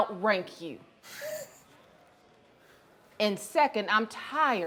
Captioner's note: Pinkerton laughs